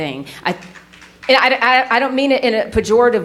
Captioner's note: audience clapping lightly